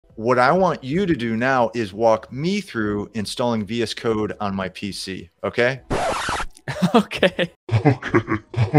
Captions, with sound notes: - What I want you to do now is walk me through installing VS code on my PC okay? (record scratching) - Okay, okay, okay.